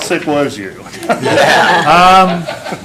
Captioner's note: laughter